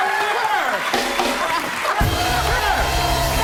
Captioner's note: laughter